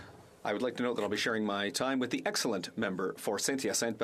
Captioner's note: speaking French